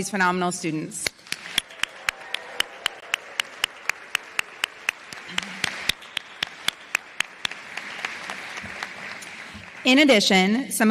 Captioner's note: applause